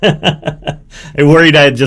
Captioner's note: laughs